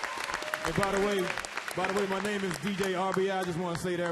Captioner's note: applause